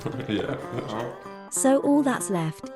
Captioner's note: all laugh again